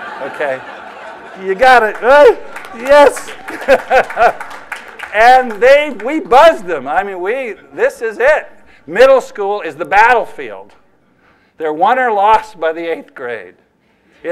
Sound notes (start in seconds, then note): 3.2 laughter